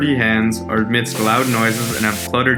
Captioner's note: food sizzling